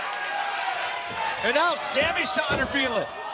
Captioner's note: crowd cheering